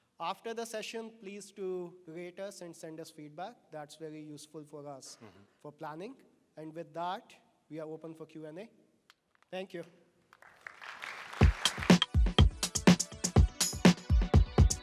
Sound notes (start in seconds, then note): 10.3 applause